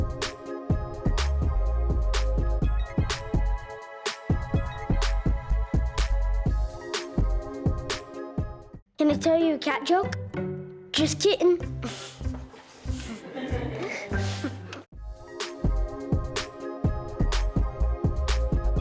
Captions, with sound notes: Can I tell you a cat joke? Just kittin'! (laughter)